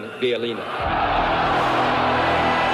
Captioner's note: crowd cheers; crowd applauds; dramatic spirited music